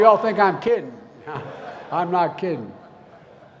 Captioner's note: laughter